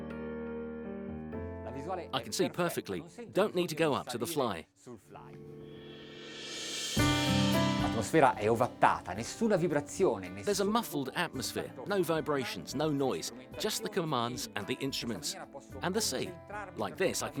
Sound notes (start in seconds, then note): 8.1 speaking in foreign language